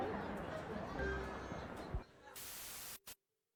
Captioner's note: audience laughter